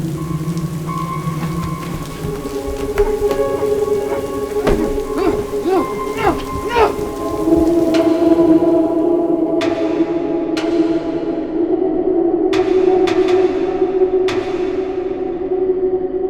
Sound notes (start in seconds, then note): 6.1 James grunting; 8.9 blood dripping